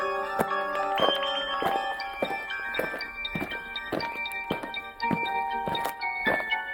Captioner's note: eerie music; aliens marching